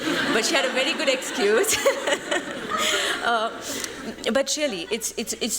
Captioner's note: laughter